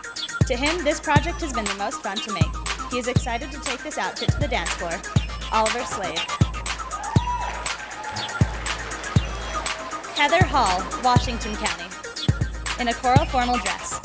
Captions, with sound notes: To him this project has been the most fun to make. He is excited to take this outfit to the dance floor. Oliver Slade. [Sound of applause and cheers from the audience] Heather Hall, Washington County, in a coral formal dress.